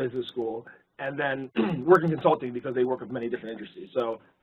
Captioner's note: cough